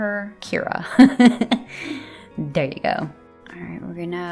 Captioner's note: laugh